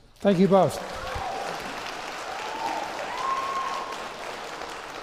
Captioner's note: applause